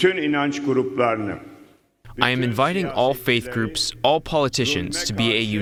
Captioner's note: through translator